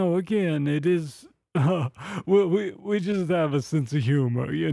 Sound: laughs

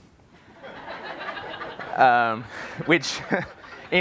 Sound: laughter

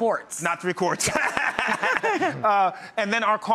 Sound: all laughing

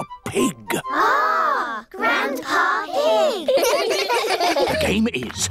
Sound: giggling

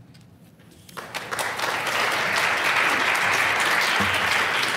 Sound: applause

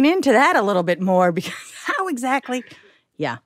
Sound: scoffs

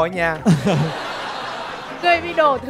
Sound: chukles; laughing

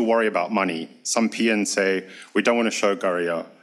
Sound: speaks foreign language

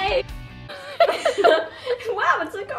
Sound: laughter

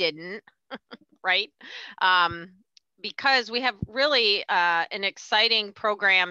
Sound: chuckles

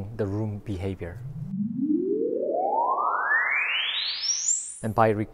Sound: frequency sweep sound effect

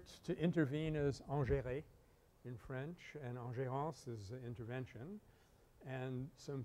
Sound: French

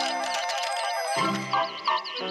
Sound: cracking; peeping

